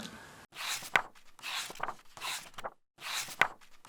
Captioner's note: pages turning